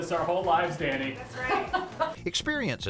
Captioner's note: laughs